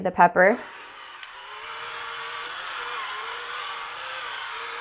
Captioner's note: whirling